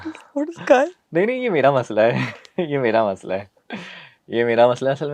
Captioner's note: sudden intake of breath